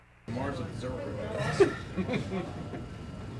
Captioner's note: laughter